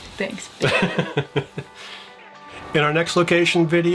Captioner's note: chuckling